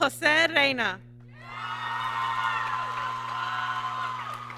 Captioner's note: applause